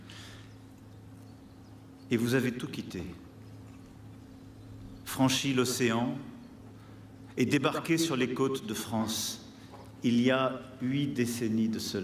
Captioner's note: speaking french